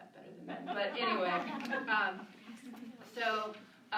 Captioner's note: laughter